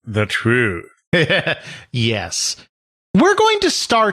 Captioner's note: chuckles